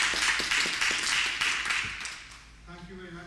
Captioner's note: applause